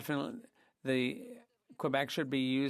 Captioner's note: speaking in French